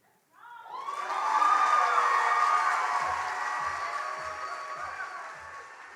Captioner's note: audience cheers and applauds